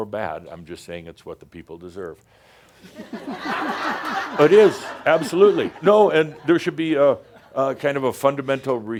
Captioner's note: laughter